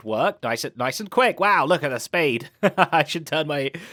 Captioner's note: laughs